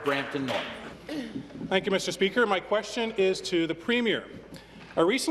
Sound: applause

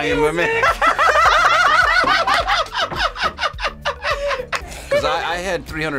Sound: both laugh

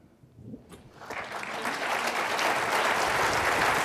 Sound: applause

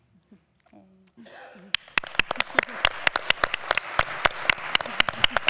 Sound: applause

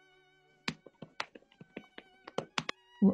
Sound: typing on keyboard

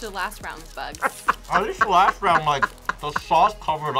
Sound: laughs

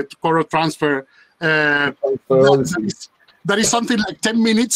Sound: overlapping chatter

